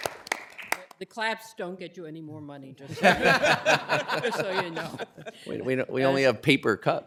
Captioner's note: applause